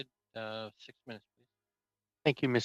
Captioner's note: speaking in French